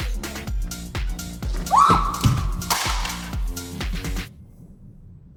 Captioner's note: scream